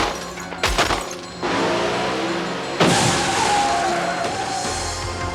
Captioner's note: gunshots; glass breaking